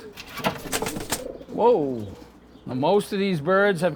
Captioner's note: wings rustling